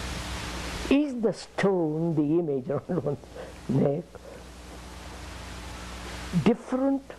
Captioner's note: laughs